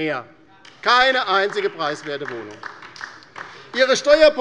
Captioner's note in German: Beifall bei der LINKEN